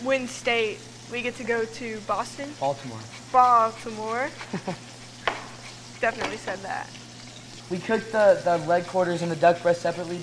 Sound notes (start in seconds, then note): 4.2 chuckles; 4.7 zester grating; 5.1 knife chops